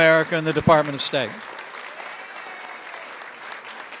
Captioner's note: applause